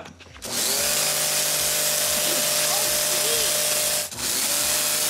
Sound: power washer whirring

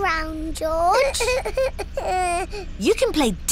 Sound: splutters

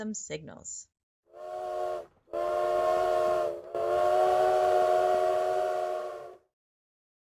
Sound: sound of a train whistle

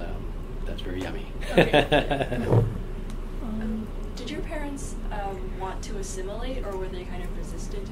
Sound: laughs

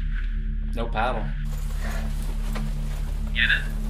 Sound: parachute rustling

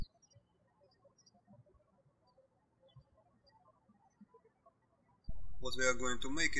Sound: birds chirping

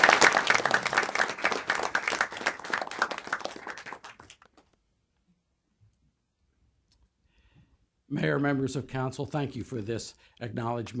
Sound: applause

